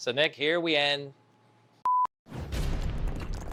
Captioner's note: beep